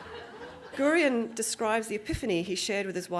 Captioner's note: audience Laughing